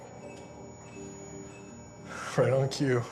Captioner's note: beeping